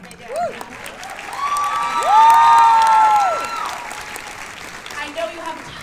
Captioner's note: cheers and applause